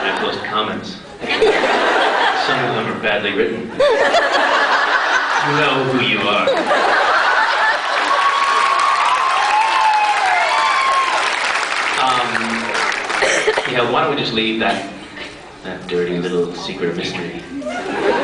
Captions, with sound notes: And I plus comments. Some of them are badly written *crowd continues to laugh* You know who you are *laughter and applause* Umm... Yeah, why don't we just leave that that, dirty little secret a mystery.